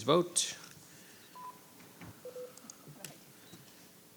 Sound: beep

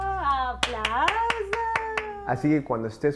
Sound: black haired woman speaks foreign language; black haired woman clapping

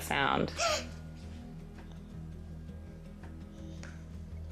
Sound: gasping

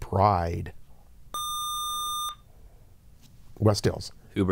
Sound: buzzer

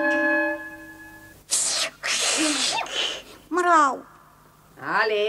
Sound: hissing like a cat

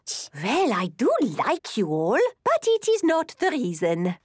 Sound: none

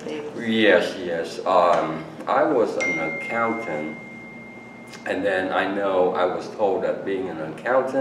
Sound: cell phone dings

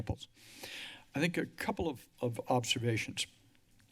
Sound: inhales heavily

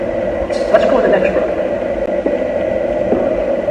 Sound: footsteps

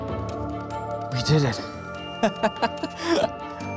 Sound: laughs

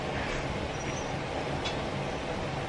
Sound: squeak

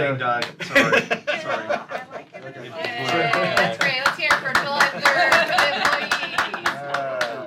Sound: applause

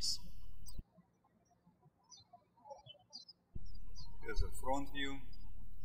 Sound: birds chirping

